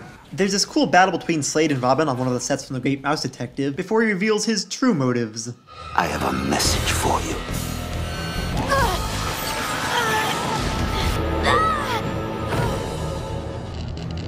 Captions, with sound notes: There’s this cool battle between Slade and Robin on one of the sets from The Great Mouse Detective before he reveals his true motives. I have a message for you. [Wincing in pain]